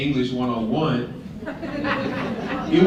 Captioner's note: laughter